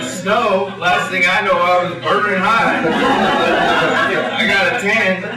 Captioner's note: laughter